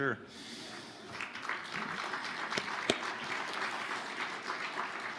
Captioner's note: audience applauding